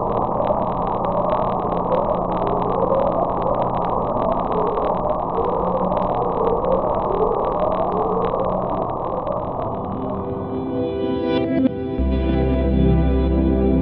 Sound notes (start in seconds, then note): 2.8 underwater ocean sounds